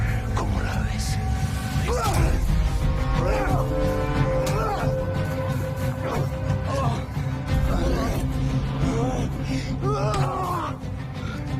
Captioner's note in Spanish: Jadeos y exclamaciones